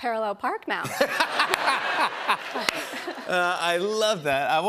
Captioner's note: laughter